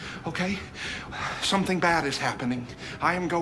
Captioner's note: exhales heavily